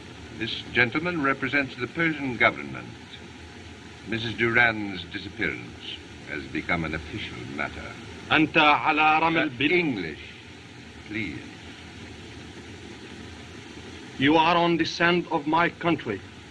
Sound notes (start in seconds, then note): 8.3 speaking Native Language